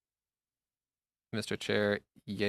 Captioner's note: speaking French